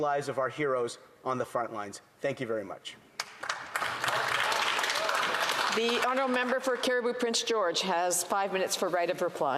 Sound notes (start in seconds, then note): 6.2 applause